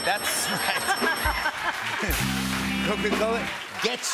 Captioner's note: laughs